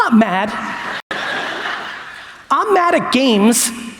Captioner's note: audience laughs